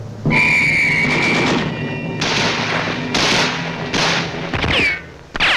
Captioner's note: blows whistle; gunshots booming